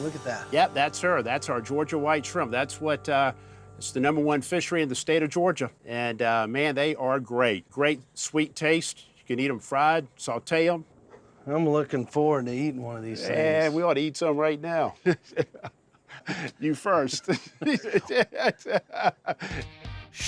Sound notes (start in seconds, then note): 14.9 chuckling; 17.1 chuckling